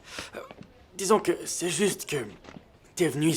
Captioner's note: sighing